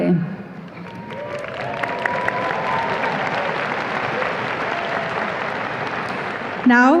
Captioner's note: audience applause and cheers